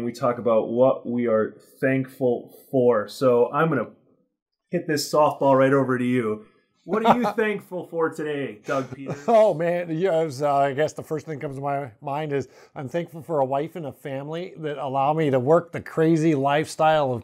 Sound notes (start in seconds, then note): 6.9 laughs